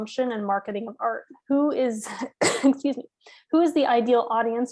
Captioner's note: coughs